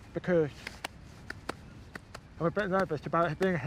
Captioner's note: claps heartbeat rhythm